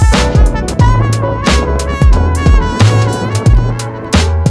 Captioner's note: wind roaring